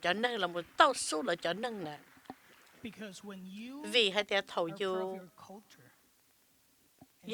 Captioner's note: applause